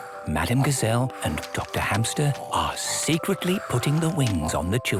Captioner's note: whispering